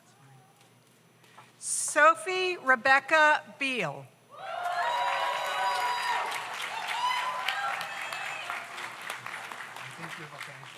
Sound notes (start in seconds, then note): 4.4 audience cheers; 4.6 audience applauds